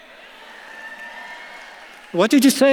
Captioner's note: audience claps and cheers